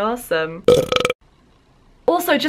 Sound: burp

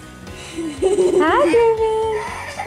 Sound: laughing

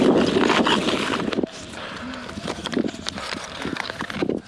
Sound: heavy breathing

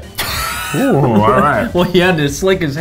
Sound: laughing

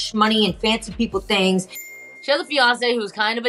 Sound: bell dings

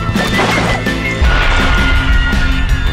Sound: gunshot

